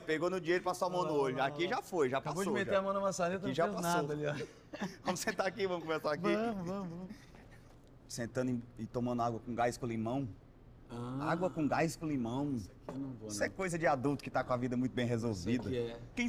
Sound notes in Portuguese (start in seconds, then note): 4.3 risada